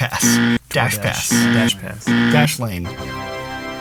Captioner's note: buzzer buzzes; triumphant music